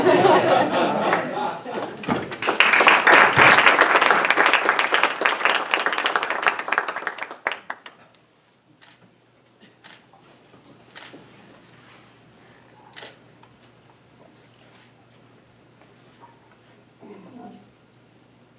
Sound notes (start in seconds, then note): 0.0 audience laughing; 2.5 audience applauding; 9.0 camera clicking